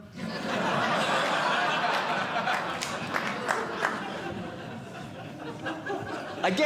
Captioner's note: audience Laughing